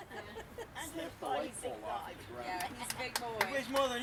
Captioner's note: background conversations